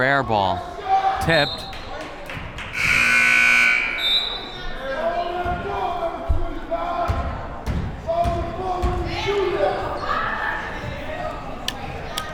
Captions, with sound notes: airball, tipped. (whistle) (buzzer) (whistle)